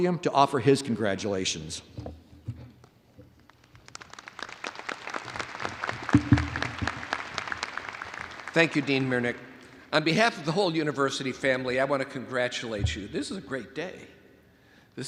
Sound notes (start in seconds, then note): 3.4 audience applauds